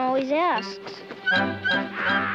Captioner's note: light orchestral music; bird squawking